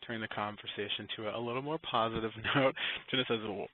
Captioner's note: chuckles